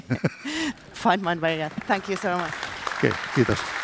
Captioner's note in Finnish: Applause